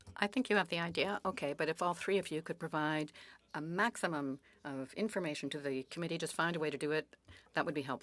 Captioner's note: speaking French